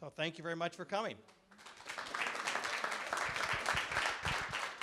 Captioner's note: clapping